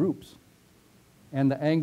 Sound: pause

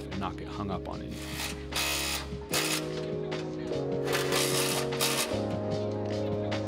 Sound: bright upbeat music; driller grinding

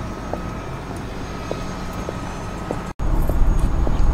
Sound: heels clacking

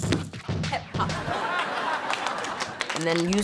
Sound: audience laughing

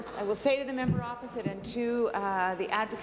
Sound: applause

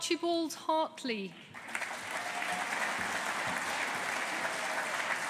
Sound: audience applauding

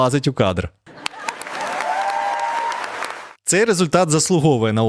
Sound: applause

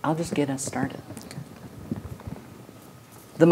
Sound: quietly

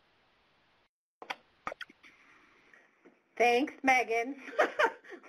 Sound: laughter

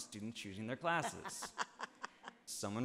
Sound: laughing

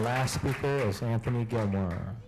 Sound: applause

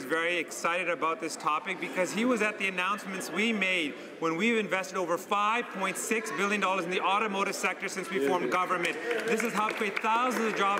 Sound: some Applause

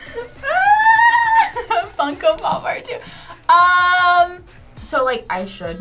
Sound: screams

